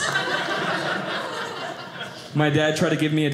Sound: audience laughing

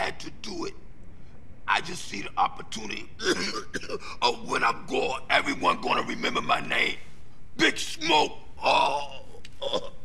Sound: awkward dying sounds?

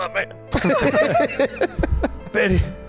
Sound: laughs

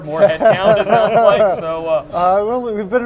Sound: laughs

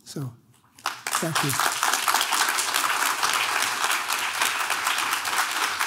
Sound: audience claps

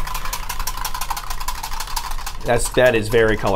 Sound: whisk clattering

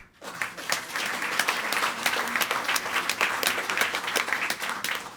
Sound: audience applauding

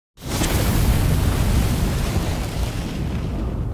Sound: flame sounds

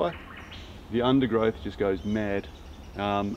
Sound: birds chirp

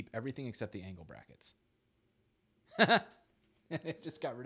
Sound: laughs

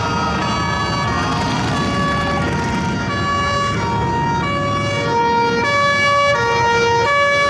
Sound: wavering siren

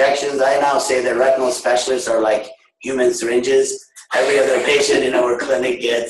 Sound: laughter

